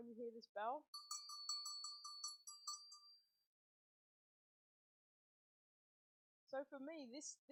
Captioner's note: ringing cowbell